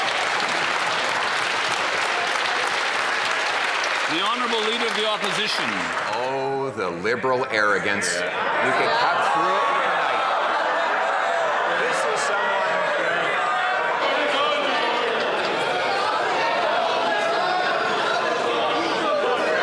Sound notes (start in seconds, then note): 2.9 applause